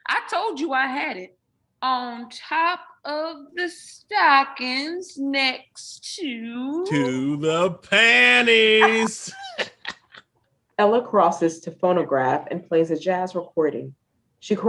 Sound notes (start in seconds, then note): 7.8 both laughing